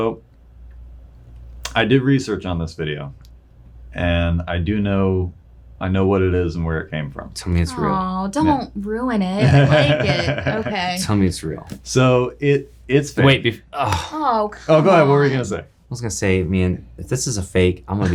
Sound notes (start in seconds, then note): 9.4 laughing